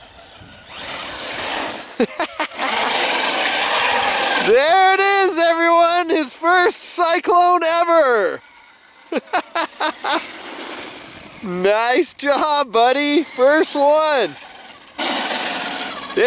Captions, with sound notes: (laughing) (engine roars) There it is everyone! His first cyclone ever! (laughs) Nice job Buddy! First one. (engine roars)